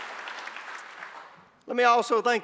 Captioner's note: applause